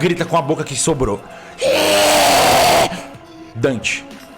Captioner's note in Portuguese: grunhido de agonia